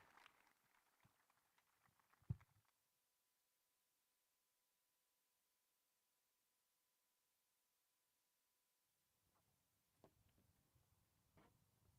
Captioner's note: cheers and applause